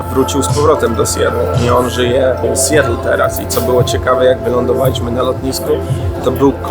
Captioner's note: as Polish